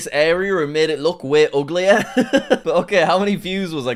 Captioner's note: laughs